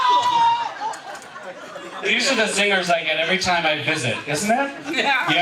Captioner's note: screaming